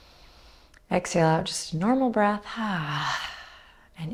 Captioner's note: exhaling